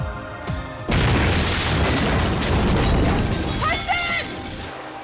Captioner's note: explosion booming